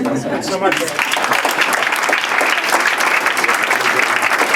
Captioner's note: applause